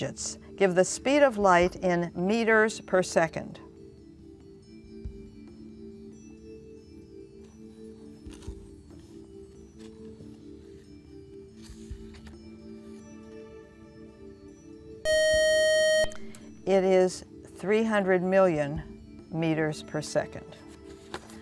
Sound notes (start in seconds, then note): 15.1 buzz